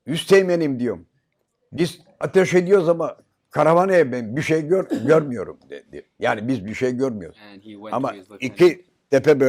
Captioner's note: foreign language